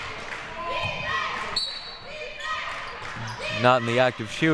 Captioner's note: clapping